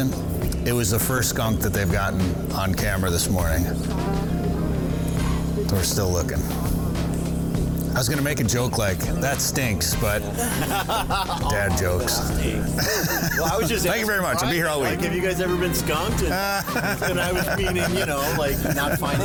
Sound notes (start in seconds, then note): 15.9 laughing